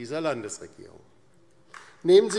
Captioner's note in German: Beifall DIE LINKE